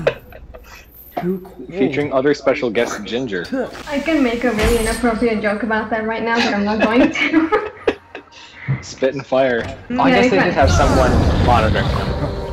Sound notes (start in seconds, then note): 9.1 laughter